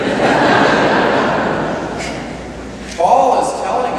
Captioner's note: laughter